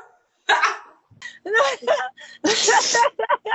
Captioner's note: laughing